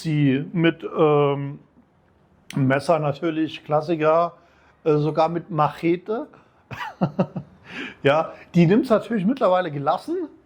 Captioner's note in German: gelächter